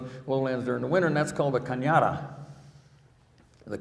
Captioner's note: speaking in foreign language